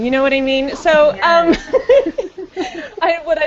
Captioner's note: laughs